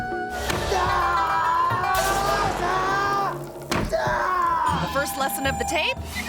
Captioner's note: martial artist screams